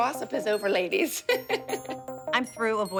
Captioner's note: laughs